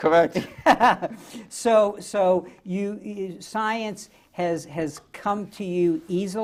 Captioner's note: laughs